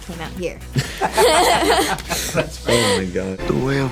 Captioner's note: laughing